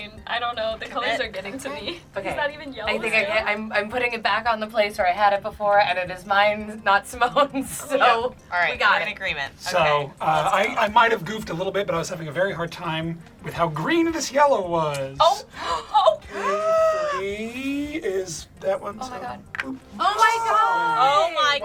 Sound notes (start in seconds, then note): 16.3 group gasping and awing